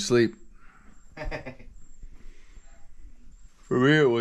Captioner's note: laughing